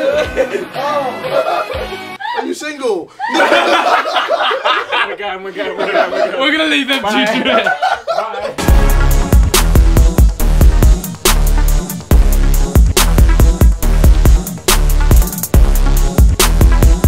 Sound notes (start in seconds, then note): 3.1 group laughing; 7.0 JJ laughing; 8.5 hip hop music begins